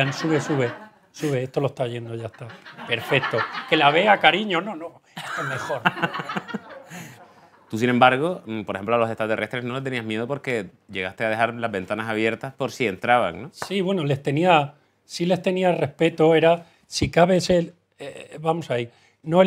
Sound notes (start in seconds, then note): 5.2 laughs